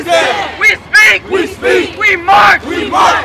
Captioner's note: crowd